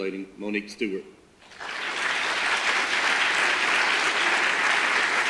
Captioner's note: audience applause